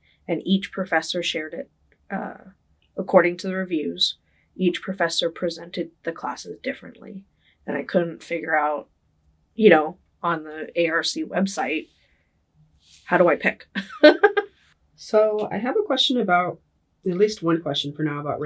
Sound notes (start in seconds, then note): 13.8 laughing